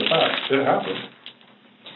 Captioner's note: bag clunking on lap